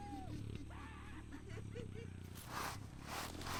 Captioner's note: snickering